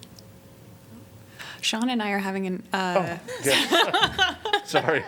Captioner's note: laughter